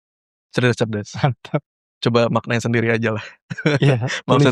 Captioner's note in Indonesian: tertawa